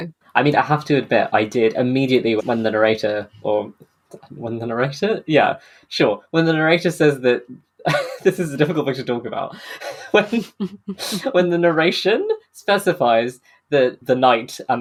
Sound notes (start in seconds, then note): 9.7 laughing; 9.7 laughs